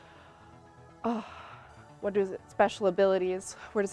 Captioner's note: sighs